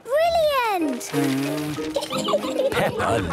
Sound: blows

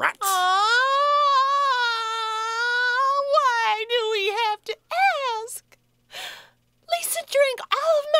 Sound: whining

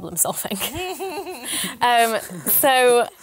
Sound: laughter

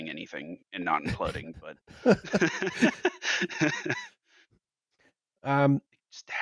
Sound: laughter

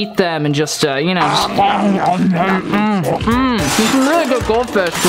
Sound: chewing

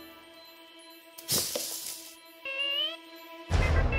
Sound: rustling of bushes

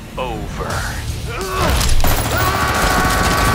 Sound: grunting; machine guns firing; shouting with high adrenaline

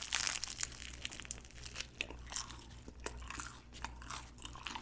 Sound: crunch crunch

